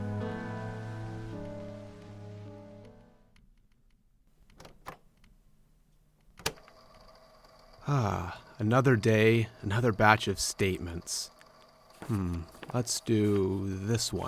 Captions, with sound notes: [MUSIC AND TAPE RECORDER STATIC FADES OUT] [FX: TAPE RECORDER STARTS, MILD STATIC] [contented sigh] Another day, another batch of statements. Hmm…[paper shuffles] Let’s do... this one.